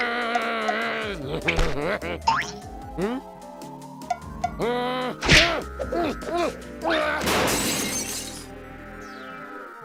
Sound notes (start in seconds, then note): 4.6 struggles; 7.2 glass breaking